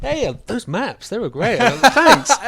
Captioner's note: laughs